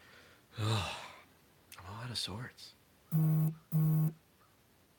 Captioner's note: beeping